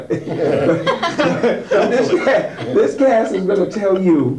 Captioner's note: laughing